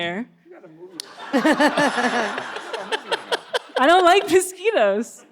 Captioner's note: all laughs